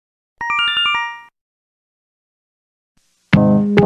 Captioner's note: Yume Nikki Instructions sound effect